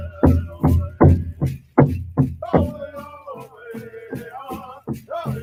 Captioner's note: jingle dress jingling